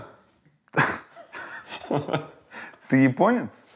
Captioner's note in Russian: оба смеются